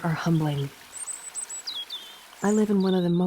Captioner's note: water gurgling; bird chirping